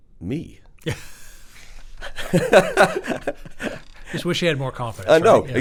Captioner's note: chuckles